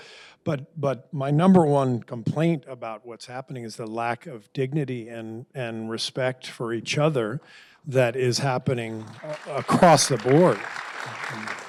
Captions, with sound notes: But, but my number one complaint about what's happening is the lack of dignity and and respect for each other that is happening across the board. (applause)